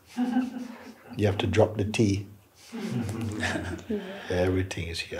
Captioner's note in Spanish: risas; risas